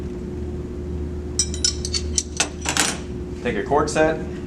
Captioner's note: tools rattle